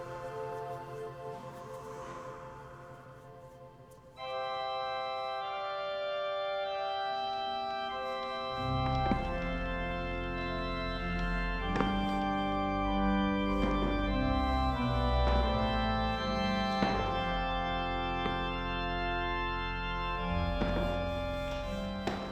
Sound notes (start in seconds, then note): 0.0 Jesse breathes heavily; 4.2 soft wedding music plays; 9.6 the sound of steps down the stairs; 15.2 soft wedding music plays